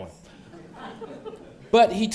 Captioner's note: audience laughs